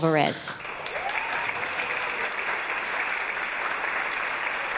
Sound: audience applause

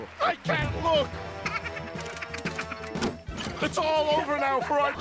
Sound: laughing

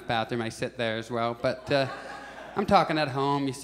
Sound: audience chuckles

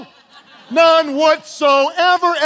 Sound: congregation laughing

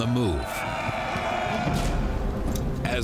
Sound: battle cry

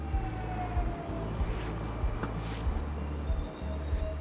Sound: train arriving

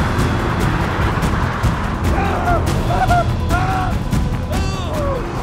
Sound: screaming because his chute didn't open. Oops?

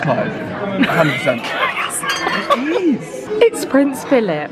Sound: laughs

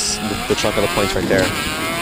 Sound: car racing sounds

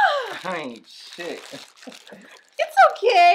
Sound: Kansas laughing

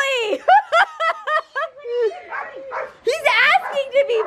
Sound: laughing

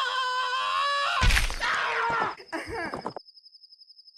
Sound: cries in pain; LINK screams; impact sound, bones breaking

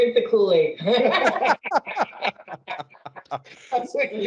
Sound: laughing

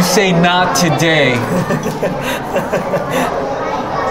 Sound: laughing

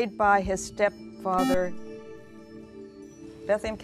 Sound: buzzer

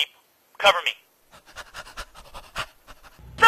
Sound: erotic panting

